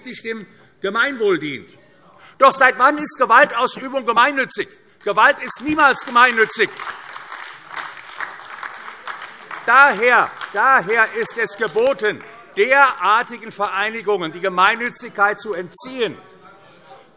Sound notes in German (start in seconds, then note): 6.8 Beifall AfD